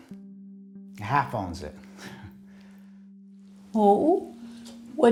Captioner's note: chuckles